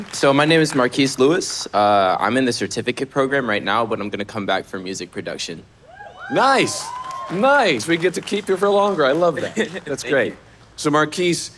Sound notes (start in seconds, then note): 5.9 audience cheering